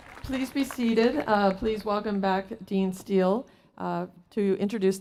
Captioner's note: applause